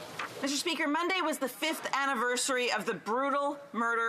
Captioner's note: speaking French